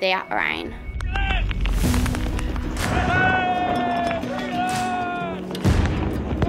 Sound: cheers

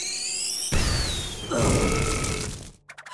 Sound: burp

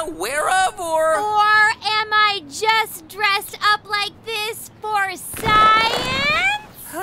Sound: costume rustles

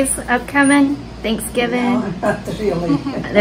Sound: chuckles

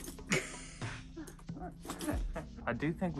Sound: laughs

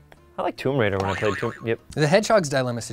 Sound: boing

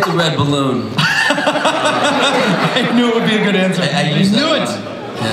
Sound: laughs

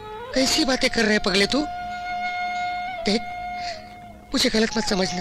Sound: none

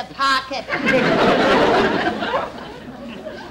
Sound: audience Laughing

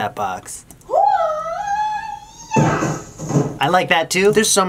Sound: person screaming in background

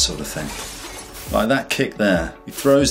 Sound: glass crashes; air whooshes

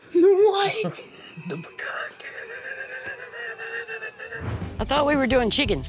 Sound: laughs

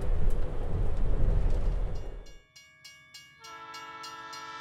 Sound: sound of train at crossing, including horn

